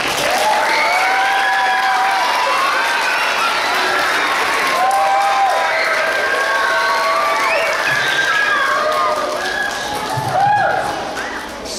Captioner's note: clapping